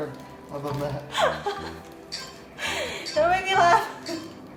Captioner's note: laughing